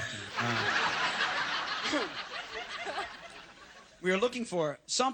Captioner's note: all laugh